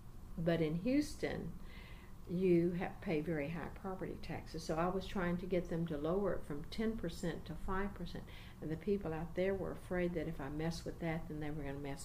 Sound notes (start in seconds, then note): none